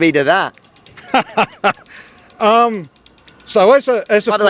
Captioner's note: laughs heartily